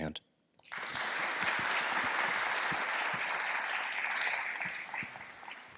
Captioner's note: attendees applauding